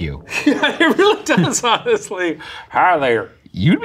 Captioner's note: laughing